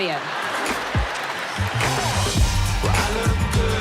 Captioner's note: audience laughing